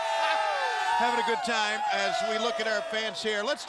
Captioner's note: crowd cheering